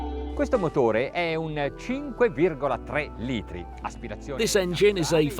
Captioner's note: speaking in foreign language